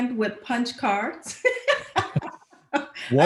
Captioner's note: laughs